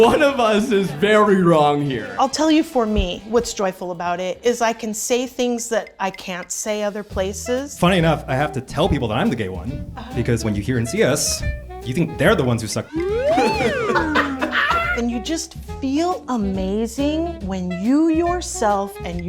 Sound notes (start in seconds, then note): 12.8 whistle sound; 13.2 everyone laughs